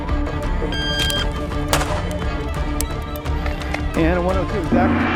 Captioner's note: timer beeps; guns fire